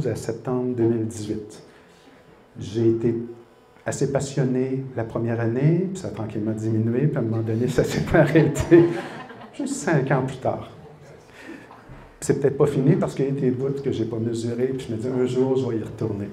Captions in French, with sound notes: septembre 2018 j'ai été assez passionné la première année, ça a tranquillement diminué puis un moment donné ça s'est arrêté! [rires] Juste cinq and plus tard! C'est peut-être pas fini parce qu'il y a des bout que j'ai pas mesuré et je me suis dit qu'un jours j'allais y retourner.